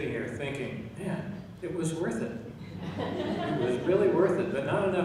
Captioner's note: laughing